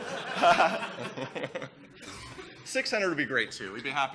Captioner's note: laughter